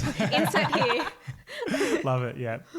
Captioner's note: laughing